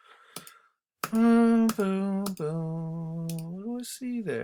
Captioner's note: instructor hums